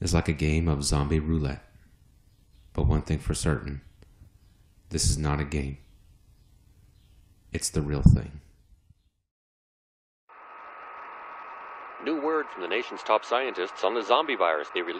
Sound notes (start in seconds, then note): 12.0 radio static